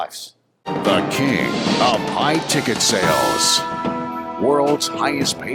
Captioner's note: voiceover